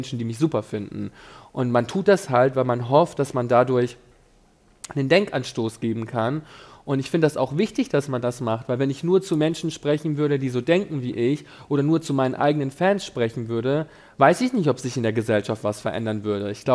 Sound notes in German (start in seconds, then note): none